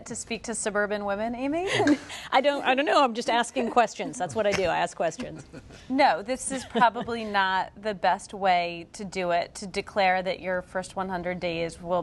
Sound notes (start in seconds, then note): 1.7 laughter